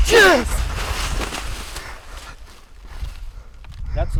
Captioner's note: leaves rustling